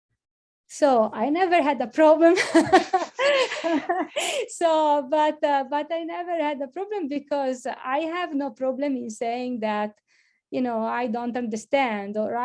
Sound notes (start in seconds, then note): 2.4 laughs